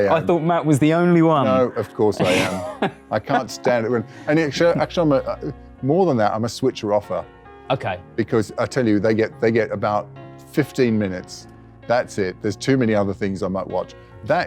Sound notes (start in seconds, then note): 4.2 laughs